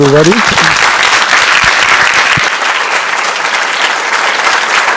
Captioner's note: crowd applauding